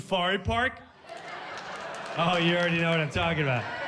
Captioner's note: audience applauds